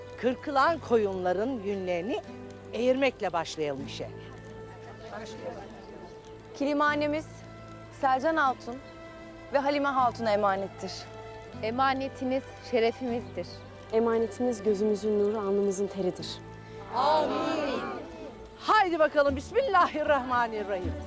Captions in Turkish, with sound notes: Kırkılan koyunların yünlerini eğirmekle başlayalım işe. Başlayalım. Kilimhanemiz Selcan Hatun ve Halime Hatun’a emanettir. Emanetiniz şerefimizdir. Emanetiniz gözümüzün nuru, alnımızın teridir. (Hep bir ağızdan) Âmin. Hadi bakalım. Bismillahirrahmanirrahim.